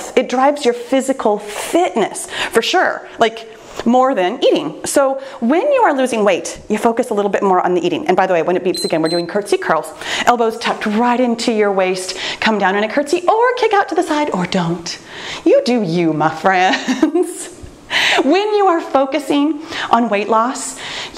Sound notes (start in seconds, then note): 8.7 timer beeps; 16.6 laughs